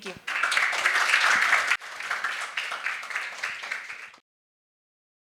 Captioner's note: audience applauding